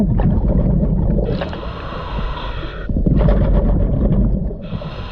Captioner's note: breaths gurgling